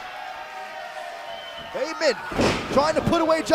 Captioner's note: crowd cheering